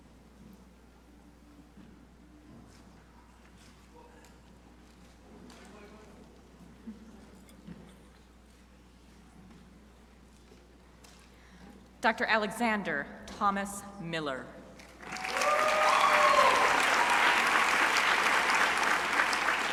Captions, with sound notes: Dr. Alexander Thomas Miller. (crowd applauding)